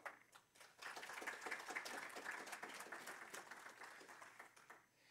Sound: applause

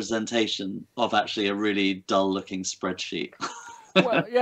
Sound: laughs

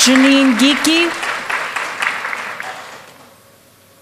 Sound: applause

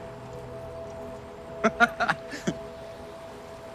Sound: chuckling

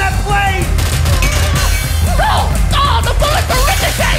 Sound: gunfire

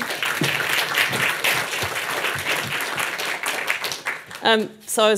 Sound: audience applauding

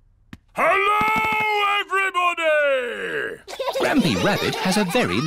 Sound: shouts; laughter

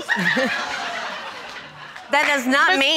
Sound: audience laughing

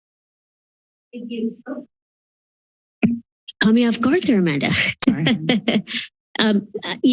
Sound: laughter

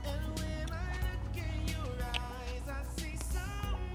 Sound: kissing

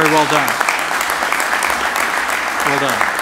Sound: applause

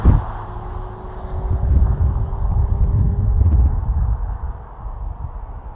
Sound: audi rs flyby; wind noise

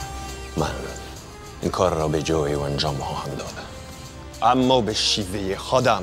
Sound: Xerxes speaking in foreign language

